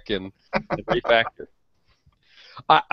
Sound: laughs

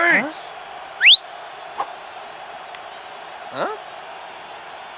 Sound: whistles

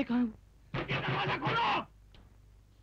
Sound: knocking

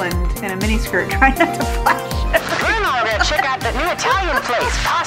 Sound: laughs

